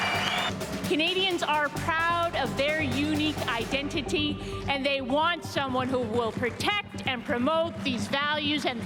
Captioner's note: cheering & Applause